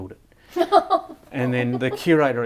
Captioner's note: laughing